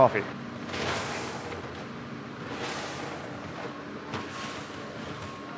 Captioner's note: coffee beans pouring